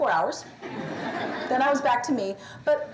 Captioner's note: laughter